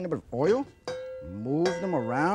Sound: wok clinks

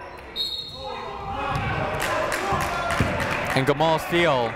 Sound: clapping

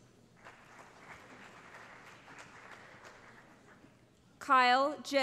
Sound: applause

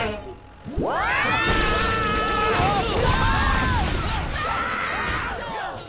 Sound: screaming

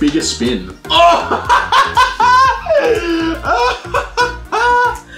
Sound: laughter

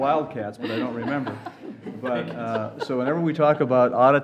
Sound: laughter

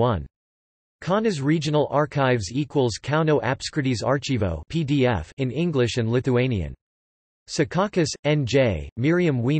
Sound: in English and Lithuanian

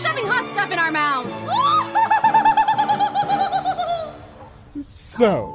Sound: haughty / crazy laugh

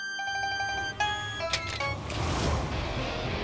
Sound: door opening

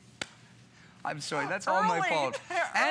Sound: laughter

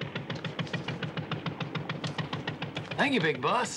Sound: rattling engine

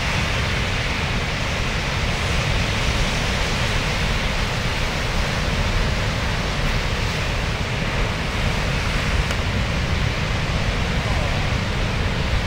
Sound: water rushing

